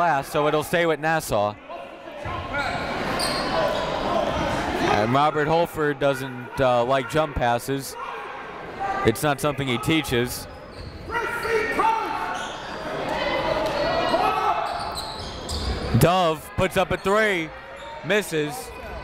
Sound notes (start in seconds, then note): 11.0 coaches yelling; 11.7 crowd talking